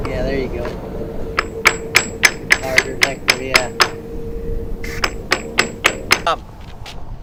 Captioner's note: hammer tapping